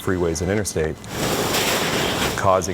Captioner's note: hose blowing foam